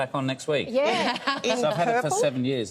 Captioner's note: hosts laughing